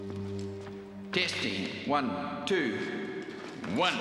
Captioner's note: man on mic